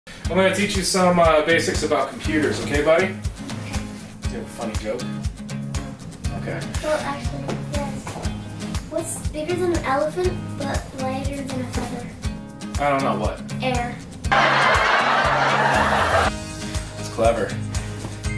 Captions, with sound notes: I'm going to teach you some basics about computers, okay buddy? Do you have a funny joke? Well, actually, yes! Whats bigger then an elephant but lighter than a feather? I dont know, what? Air! *Crowd Laughing* Thats clever